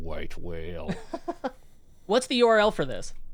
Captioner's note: laughs